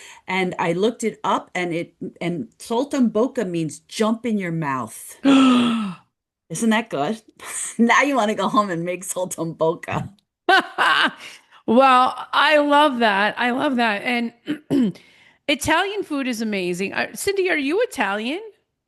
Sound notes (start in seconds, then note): 5.2 gasps; 10.4 laughs